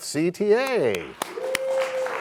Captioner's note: cheers and applause